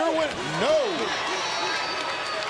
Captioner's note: crowd chatter